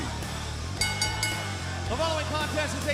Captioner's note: bell ringing